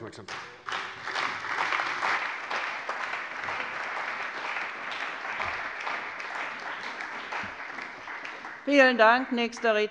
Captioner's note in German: Beifall bei der CDU und dem BÜNDNIS 90/DIE GRÜNEN